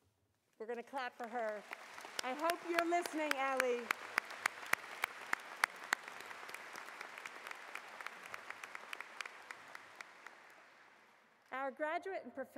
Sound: applause

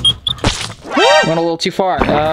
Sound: water squirts

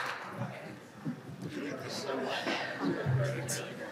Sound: people chattering

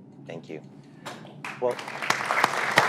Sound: applause

